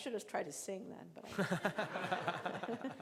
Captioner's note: laughing